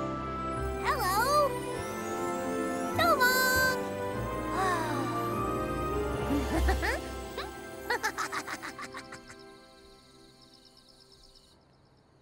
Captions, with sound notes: Hello! So long. [gasps in awe] [chuckling]